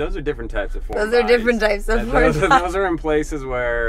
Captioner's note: laughing